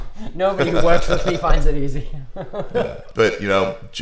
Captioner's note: laughs